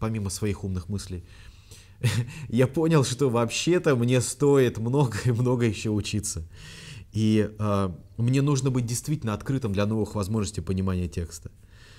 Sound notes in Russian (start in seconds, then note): 2.0 усмехается; 6.5 вдох